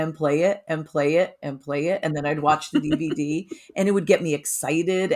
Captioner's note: laughing